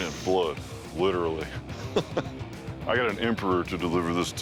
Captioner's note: chuckles